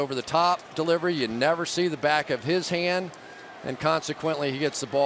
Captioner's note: players shouting